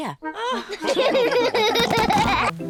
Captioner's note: all laugh